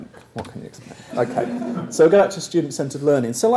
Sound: laugh

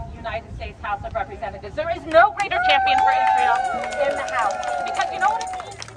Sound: applause

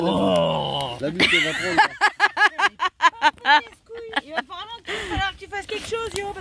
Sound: laughs

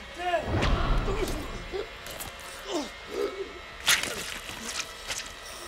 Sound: dramatic music; guts squishing; James grunts; dramatic music

